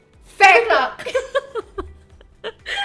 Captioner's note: laughs